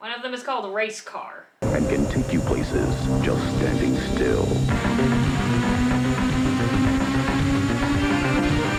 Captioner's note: racing Car